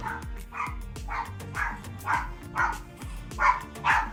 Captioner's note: dog barking